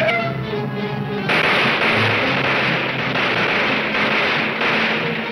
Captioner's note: gunshots banging